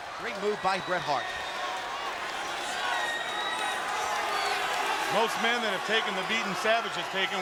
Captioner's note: applause